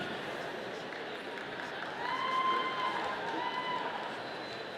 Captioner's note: audience applauding